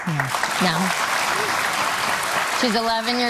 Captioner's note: audience clapping